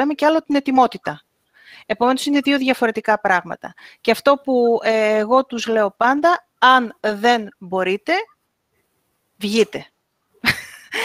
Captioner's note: γέλιο